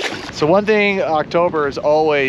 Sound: fish splashing

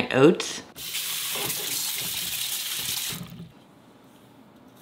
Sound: water splashing

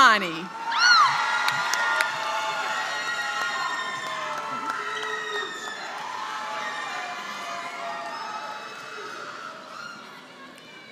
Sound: applause

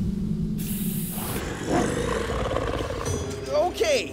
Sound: growling

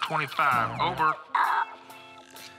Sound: imitates radio static

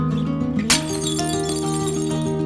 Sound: falling Plates crashing

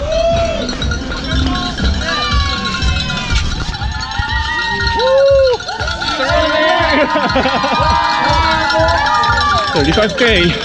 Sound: bells ringing and people cheering

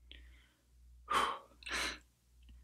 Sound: blows out a quick breath

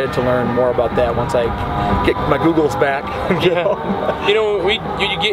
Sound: chuckles

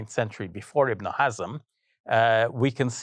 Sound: speaking foreign language

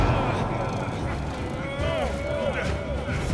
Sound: both grunting

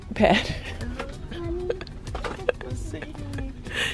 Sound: laughing

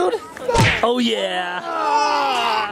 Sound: cartoon smacking sound

